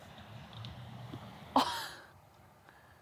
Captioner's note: laughs